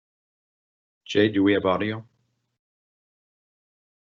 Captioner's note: male Voice